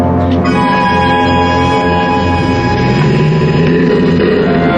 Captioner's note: growling